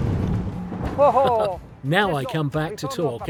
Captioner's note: chuckling